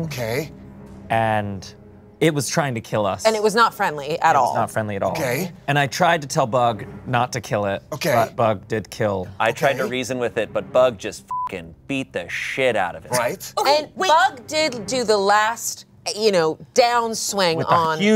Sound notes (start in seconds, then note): 11.3 beep